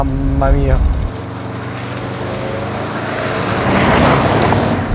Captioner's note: revving